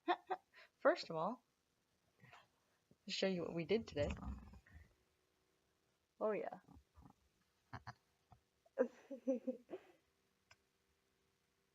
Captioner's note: laughs